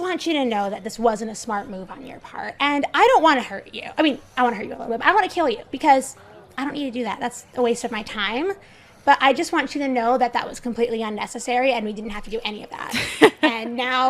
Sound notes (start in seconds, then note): 12.9 Rover laughs